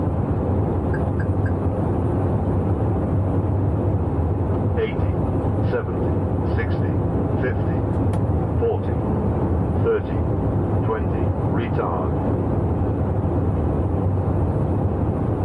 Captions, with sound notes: - [Automated Voice] 18, 17, 16, 15, 14, 13 (air whooshing)